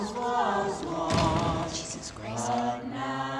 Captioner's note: bang